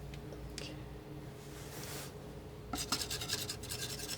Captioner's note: scratching